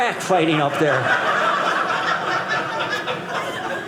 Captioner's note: audience laughing